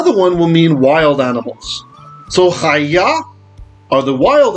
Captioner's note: Hebrew